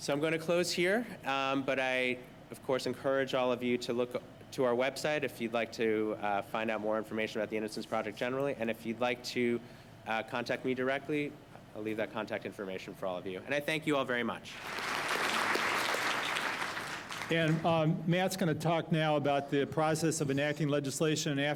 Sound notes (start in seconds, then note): 14.5 applause